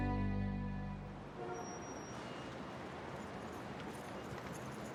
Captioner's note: serene music fades; ambient city noises